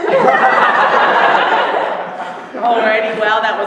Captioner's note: laughter